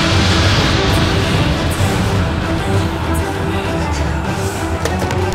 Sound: mysterious whispering

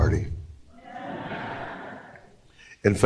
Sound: laughter

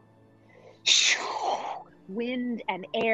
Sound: mimicking wind

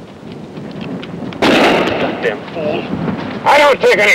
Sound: gun firing

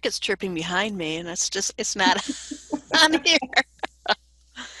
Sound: laughing

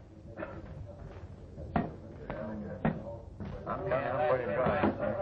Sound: chatter

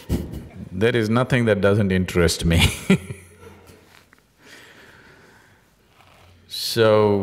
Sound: laughs; laughs

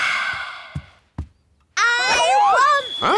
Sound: sighs

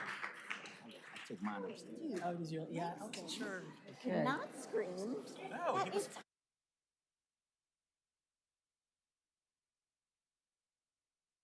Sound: applause

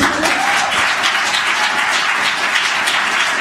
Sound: applause

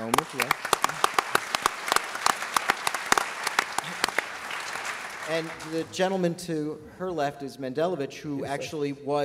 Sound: applause

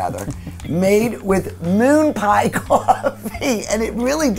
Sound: laughing

